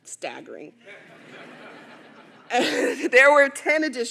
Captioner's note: audience laughing